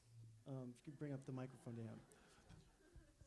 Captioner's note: audience laughs